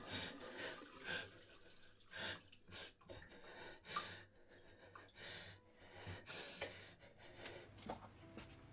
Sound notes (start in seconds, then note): 0.5 water dripping